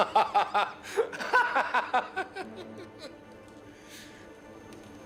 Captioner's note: laughing